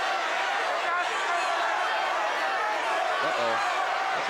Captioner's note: crowd yelling